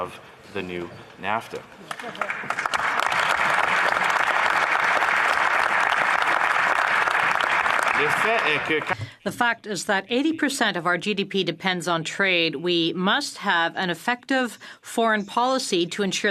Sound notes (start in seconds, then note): 5.0 some Applause